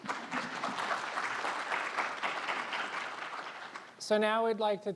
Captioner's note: applause